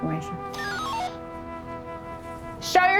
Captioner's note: radio beeps